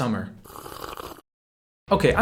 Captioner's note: obnoxiously sipping